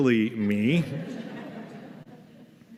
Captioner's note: laughter